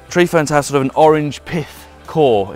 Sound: none

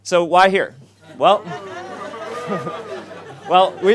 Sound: audience laughs

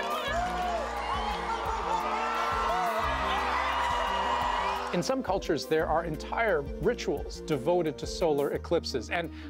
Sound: cheering

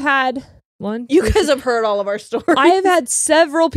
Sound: laughs

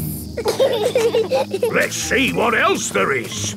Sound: bees buzzing

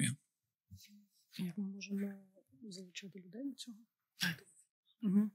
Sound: non-english speech; non-english

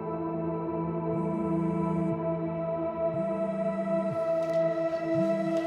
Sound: phone vibrating

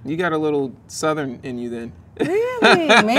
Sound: laughs

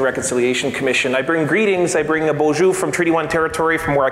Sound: foreign speaking

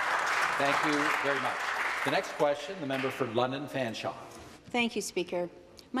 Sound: some Applause

